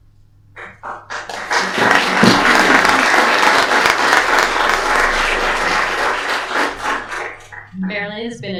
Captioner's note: applause